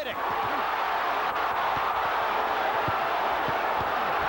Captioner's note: crowd cheering